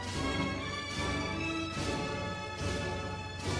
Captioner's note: none